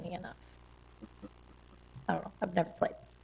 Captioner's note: people chuckle